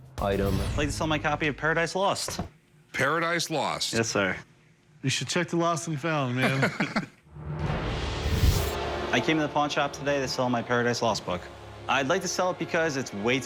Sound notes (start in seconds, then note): 6.4 chuckling